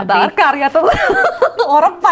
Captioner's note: laughs